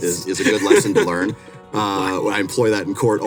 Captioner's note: laughing